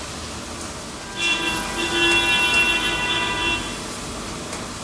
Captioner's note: noise of a car horn